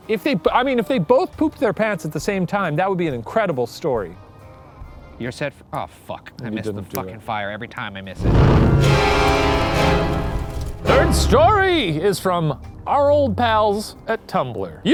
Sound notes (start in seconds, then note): 8.2 smoke whooshing; 8.2 intense eerie music